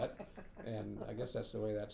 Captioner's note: laughing